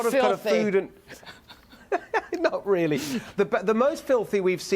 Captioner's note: laughter